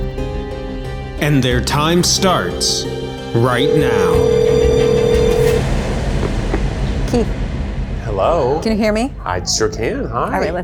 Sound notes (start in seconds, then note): 3.7 payphones ringing